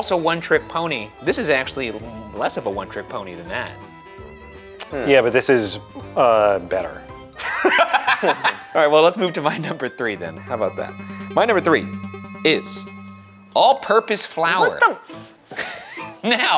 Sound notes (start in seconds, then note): 3.9 playful music; 7.4 laughing; 12.3 dramatic music; 15.5 laughing